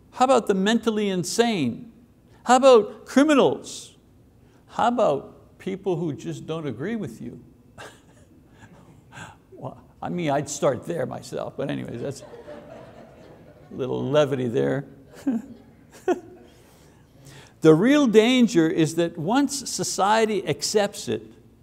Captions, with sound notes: How about the mentally insane? How about criminals? How about people who just don't agree with you? I mean, I'd start there myself. But anyways (audience laughs) that's a little levity there. The real danger is that once society accepts it,